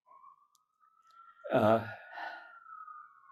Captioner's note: sirens